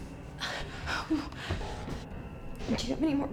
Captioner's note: Claire groans